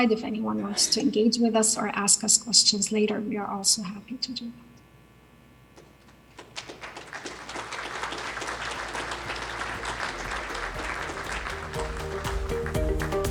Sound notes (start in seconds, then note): 6.2 crowd clapping; 8.7 upbeat music